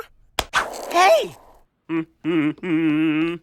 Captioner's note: humming